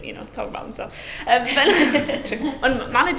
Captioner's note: laughing